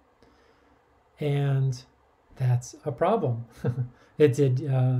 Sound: laughs

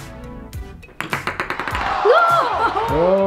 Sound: ball clacks; disappointed crowd

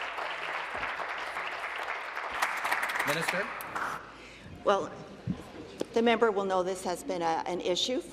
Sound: applause

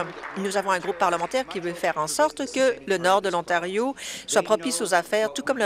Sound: applause

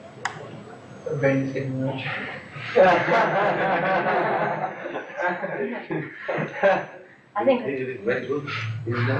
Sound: laughter

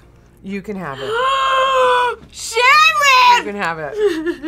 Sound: gasps; laughs; cries

